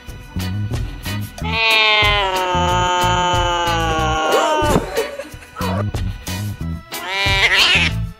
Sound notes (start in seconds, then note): 1.4 kittens mewing; 6.9 black Cat Meowing